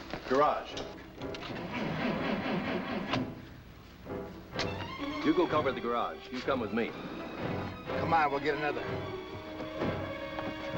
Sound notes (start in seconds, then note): 1.5 engine sputtering